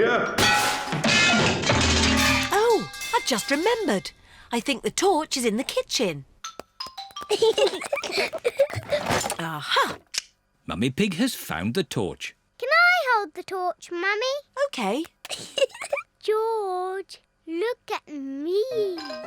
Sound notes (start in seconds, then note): 0.3 clanging and crashing; 7.2 peppa and george giggling; 15.2 giggles